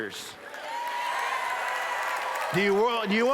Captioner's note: cheers